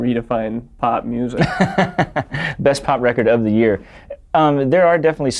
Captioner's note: laughs